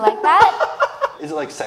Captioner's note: laughs